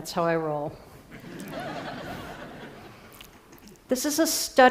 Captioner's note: Risadas